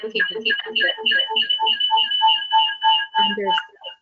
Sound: audio echo, reverberation

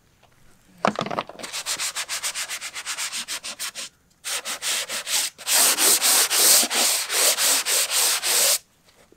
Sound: rubbing

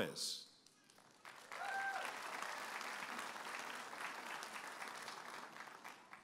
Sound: audience applauding and cheering

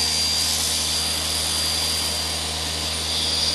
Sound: machine noise

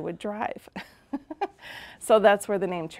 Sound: laughing

